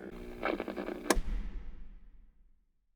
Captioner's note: radio turns off